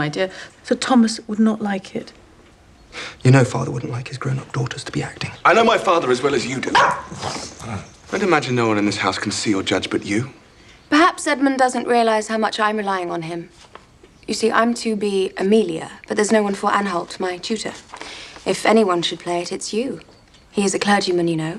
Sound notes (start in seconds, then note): 6.6 Pug barks